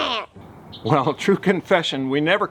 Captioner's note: chuckles